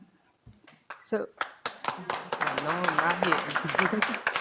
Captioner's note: audience applause